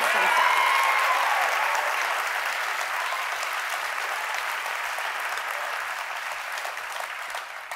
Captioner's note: cheers and applause